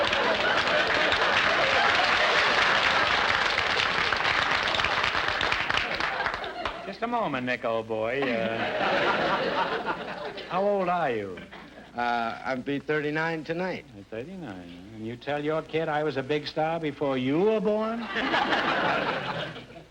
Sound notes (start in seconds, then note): 0.0 audience laughter and applause; 2.8 applause; 8.2 audience laughter; 17.9 audience laughter